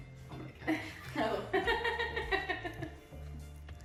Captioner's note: laughs